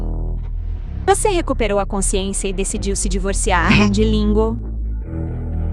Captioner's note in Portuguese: limpando a garganta